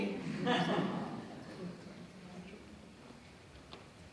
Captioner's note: crowd laughs